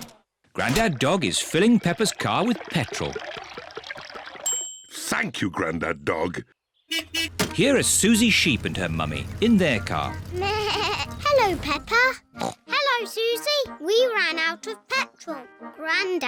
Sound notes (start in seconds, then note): 4.5 bell dings; 6.8 horn beeps; 10.9 bleats; 12.4 snorts